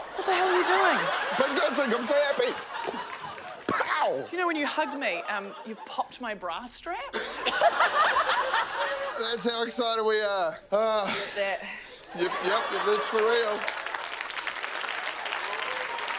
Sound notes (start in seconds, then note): 7.2 laughter; 10.5 sighs; 15.1 applause